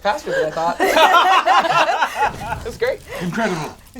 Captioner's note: all laugh